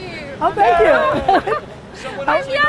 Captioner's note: laughs